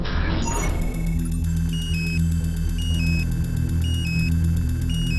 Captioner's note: electronics beeping